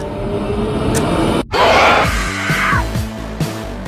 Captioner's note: WOMAN IN THE BED shrieks